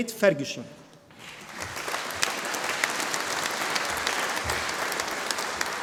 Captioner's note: audience applauding